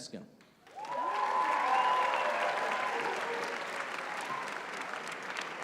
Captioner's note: applause